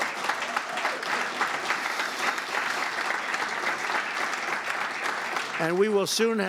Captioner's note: applause